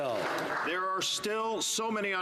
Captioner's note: some Applause